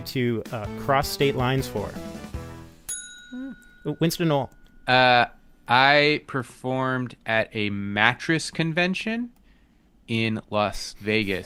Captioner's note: cheerful chime